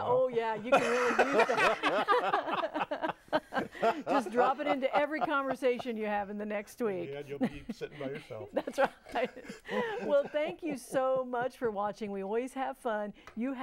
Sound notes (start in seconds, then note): 4.0 laughing; 10.1 laughing